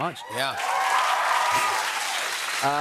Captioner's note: cheers and applause